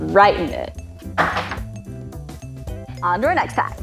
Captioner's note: banging